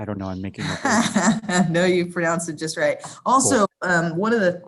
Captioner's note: laughs